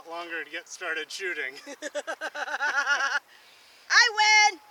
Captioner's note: laughing